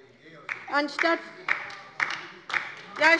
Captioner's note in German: Beifall bei der LINKEN